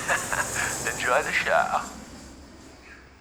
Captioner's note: laughing; airplane engine whirring